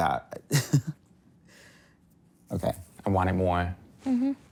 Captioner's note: person laughing